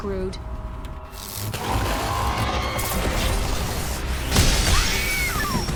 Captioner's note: creature roaring; woman screaming